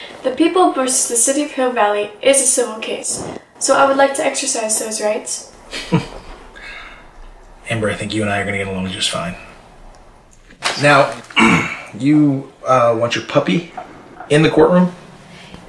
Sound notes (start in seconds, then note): 5.6 Judge Kelly chuckles